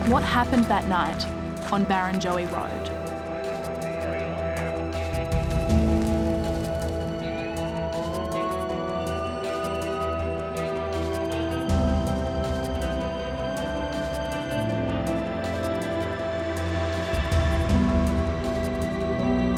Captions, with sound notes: What happened that night on Barrenjoey Road? (suspenseful music) (siren wails)